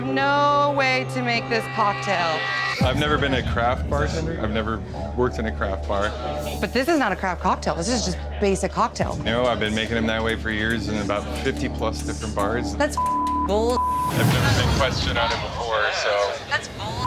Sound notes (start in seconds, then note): 12.9 beep; 16.8 beep